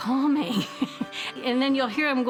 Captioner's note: laughing